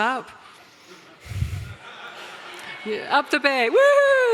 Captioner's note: audience laughter